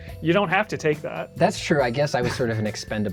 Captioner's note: laughs